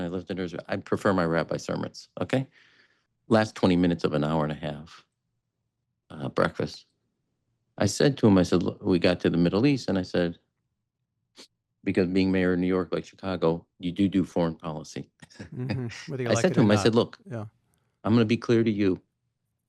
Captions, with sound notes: I listen to Israel. I prefer my rabbi's sermons, okay?" Last 20 minutes of an hour and a half breakfast, I said to him, I said, "Look," we got to the Middle East, and I said, "Because being mayor of New York, like Chicago, you do do foreign policy." [laughs] - Whether you like it or not. - I said to him, I said, "Look, I'm gonna be clear to you.